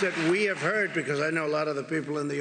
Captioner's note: applause